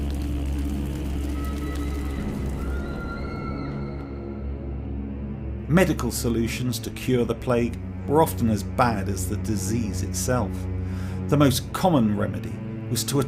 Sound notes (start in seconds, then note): 1.2 screaming